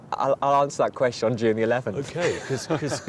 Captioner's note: laughing